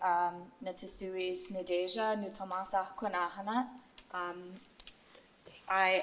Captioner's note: non-english speech